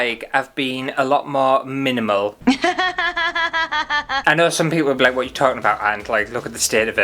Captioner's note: laughter